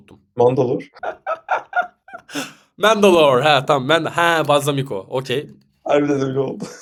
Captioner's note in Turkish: kahkaha